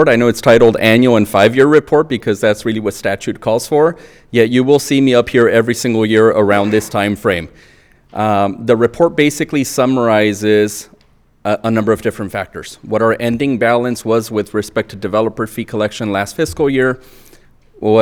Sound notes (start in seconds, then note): none